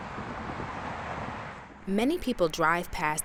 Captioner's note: traffic running on highway